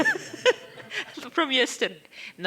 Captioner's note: laughing